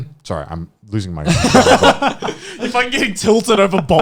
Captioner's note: laughing